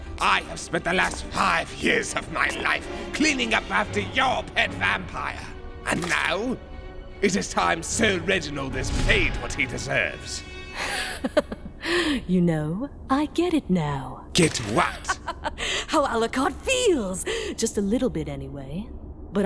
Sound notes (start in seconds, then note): 11.0 amused chuckling; 14.8 Integra chuckling; 15.6 deep breath